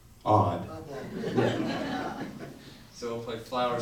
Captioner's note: audience laughs